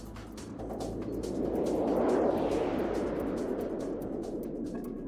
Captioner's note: plane whooshing